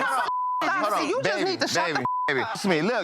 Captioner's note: beep